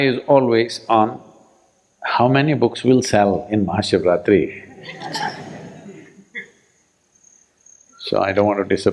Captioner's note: laughter